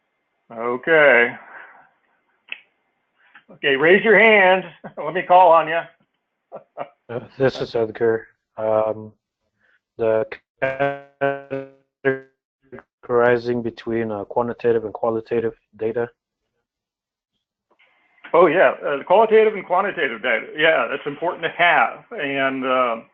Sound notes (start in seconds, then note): 6.5 laugh